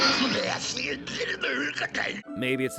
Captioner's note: grunting